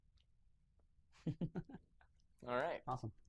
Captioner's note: laughter